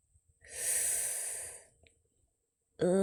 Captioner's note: sharp inhale